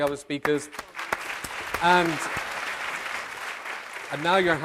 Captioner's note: applause